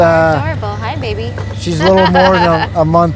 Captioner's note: laughing